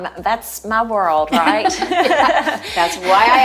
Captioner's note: both laugh